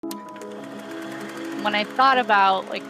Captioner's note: film projector starting up